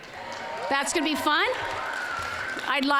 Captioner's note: applause